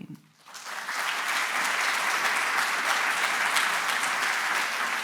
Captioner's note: audience applauding